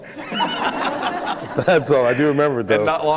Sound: laughter

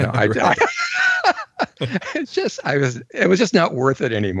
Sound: laughs

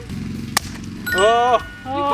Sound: balloon pops; ding

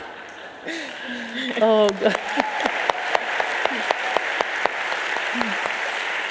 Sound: audience laughing; audience applauding

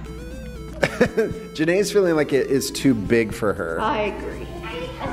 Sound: chuckles

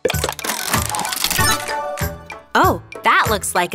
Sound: mechanical whirring

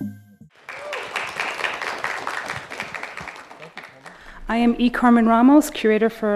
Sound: applause

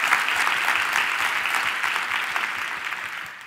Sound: applause

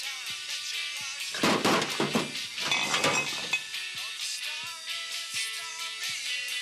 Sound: thumping and clattering

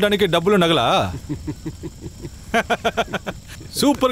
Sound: laughs

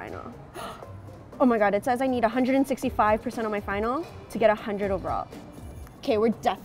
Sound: gasp

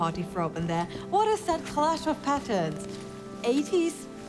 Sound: clothes rustling

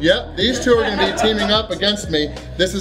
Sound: laughter

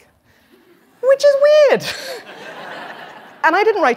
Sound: laughter

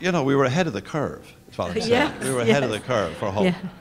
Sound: laugh

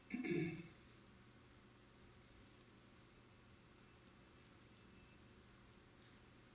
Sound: audience member clearing their throat

